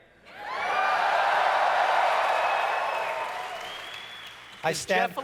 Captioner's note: audience cheers